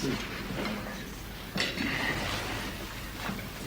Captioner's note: none